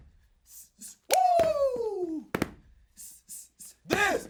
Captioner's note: both hissing; hissing; both hissing